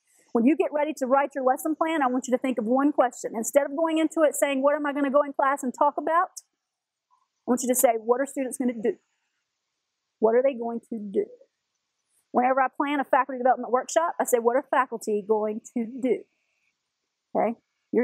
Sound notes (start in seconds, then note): none